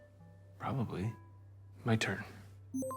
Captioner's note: system beeps